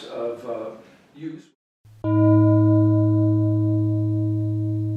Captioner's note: gong